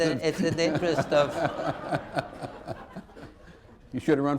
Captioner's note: laughter